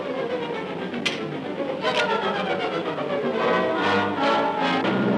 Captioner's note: revolver clicking